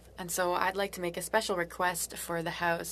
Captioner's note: speaking french